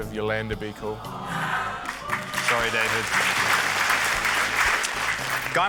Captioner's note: audience groans, applauds